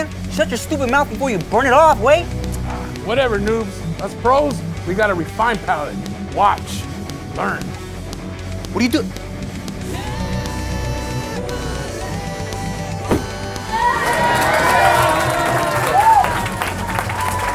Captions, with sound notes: Shut your stupid mouth, before you burn it off, guey. Agh. Whatever n00bs. Us, pros, we have a refined palette. Watch. Learn. What are you doing? **CROWD GOES APE SHIFTS**